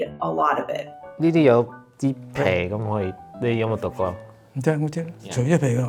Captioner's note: speaking foreign language